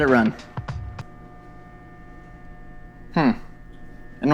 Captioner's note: soft whirring